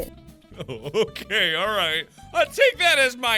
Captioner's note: laughing